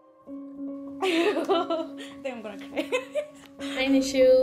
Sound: laughs

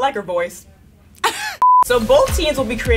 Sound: laughing; beeps

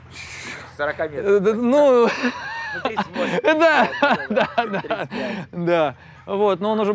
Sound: laughs

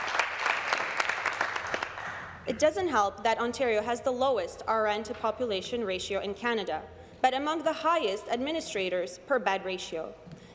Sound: applause

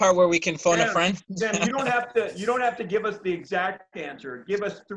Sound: laughter

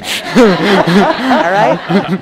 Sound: audience laughs

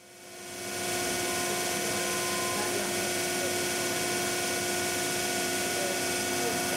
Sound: machine cutting

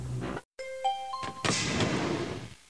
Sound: chimes

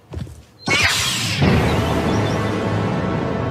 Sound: Lightsaber ignition

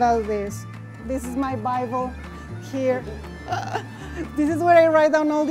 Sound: laughs

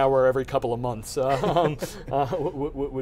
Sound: laughs

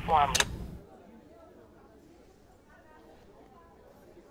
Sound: phone clicking

